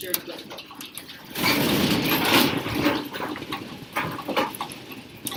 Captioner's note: loud rumbling and rattling